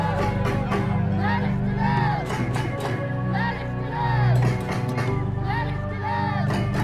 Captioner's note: percussive music; all speaking foreign language